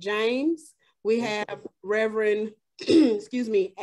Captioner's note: clears throat